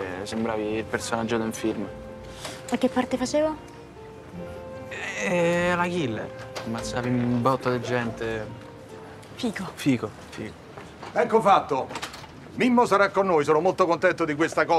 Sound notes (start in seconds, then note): none